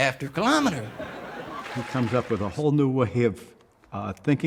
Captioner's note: laughter